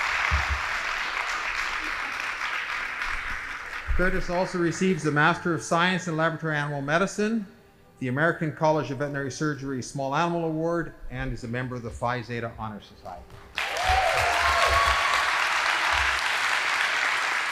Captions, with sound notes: Curtis also receives the master of science in laboratory animal medicine, the American College of Veterinary Surgery Small Animal Award, and is a member of the Phi Zeta Honor Society. (audience applauding)